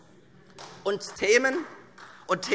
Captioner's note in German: Beifall